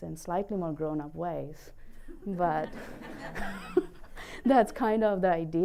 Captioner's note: laughing